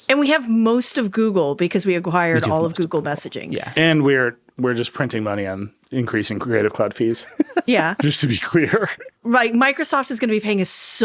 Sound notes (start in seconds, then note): 7.0 laughing